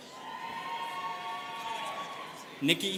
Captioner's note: students cheering